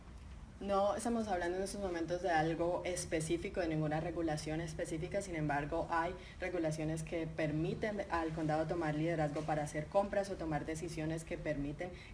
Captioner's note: speaking in Spanish